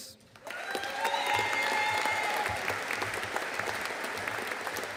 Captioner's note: audience cheering and applauding